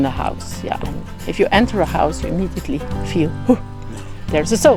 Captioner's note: pfooh